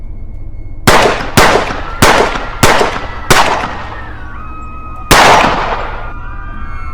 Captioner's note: guns shoot; people scream